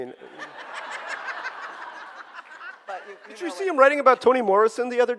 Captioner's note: audience laughing